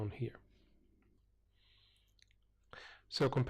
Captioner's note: pause